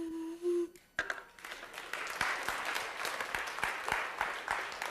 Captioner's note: class applauds